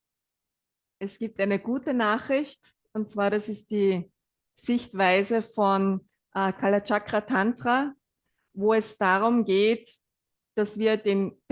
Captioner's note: German live translation